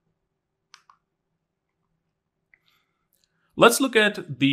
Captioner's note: remote clicking